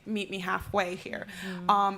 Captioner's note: none